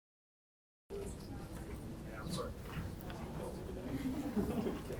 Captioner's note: audience chattering